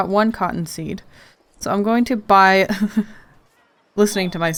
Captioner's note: laughs